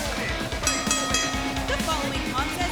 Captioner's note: bell rings